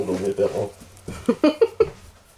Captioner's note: laughs